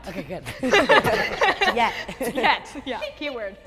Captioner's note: laughing